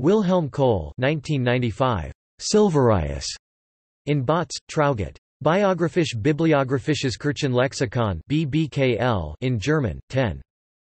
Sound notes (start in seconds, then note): 9.0 in German